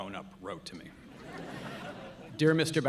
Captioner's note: audience laughing